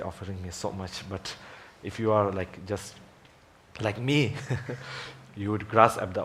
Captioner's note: laughs